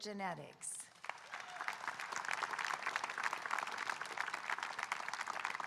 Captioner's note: audience applauding